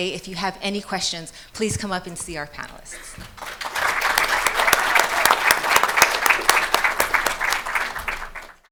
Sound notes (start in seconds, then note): 3.2 attendees applauding